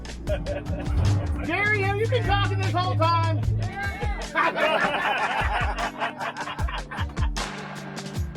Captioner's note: laughter